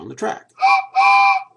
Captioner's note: train whistle